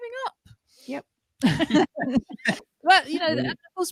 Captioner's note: laughter